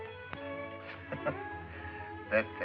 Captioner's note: chuckles